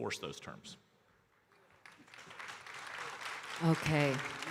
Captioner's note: audience applauding